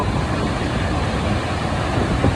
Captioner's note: roar of the waterfall